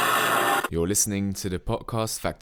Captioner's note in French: ancien mode radio : grésillements